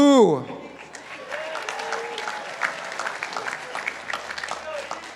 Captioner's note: participants applauding